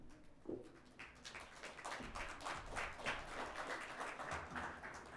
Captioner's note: audience applauds